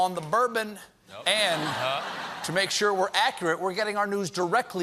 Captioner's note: laughter